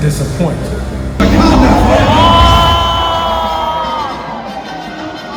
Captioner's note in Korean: 와아